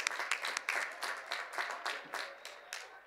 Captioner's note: cheers and applause